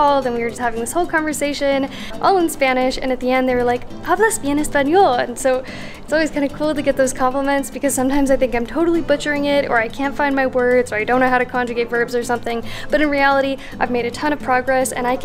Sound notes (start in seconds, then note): 4.1 speaking in Spanish